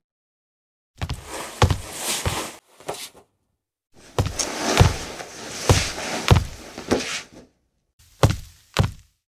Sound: dragging body sound effect

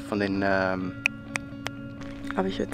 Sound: snapping fingers

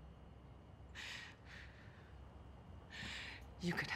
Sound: breathing heavily

